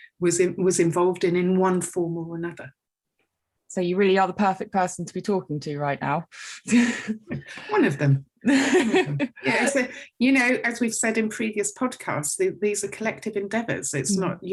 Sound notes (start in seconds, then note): 8.5 chuckles